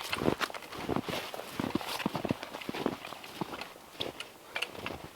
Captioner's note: footsteps crunching